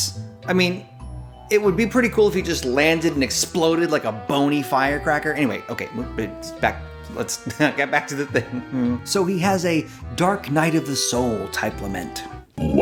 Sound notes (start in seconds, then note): 8.4 laughs